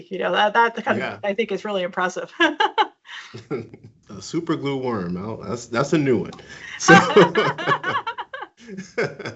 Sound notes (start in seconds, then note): 3.7 laughs; 6.3 both laugh